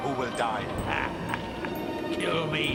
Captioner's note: laughs